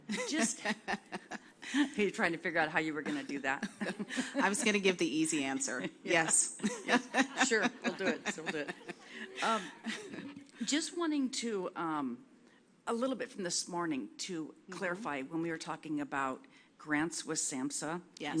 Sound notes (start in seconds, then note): 0.1 laughter; 4.0 laughs; 6.5 laughs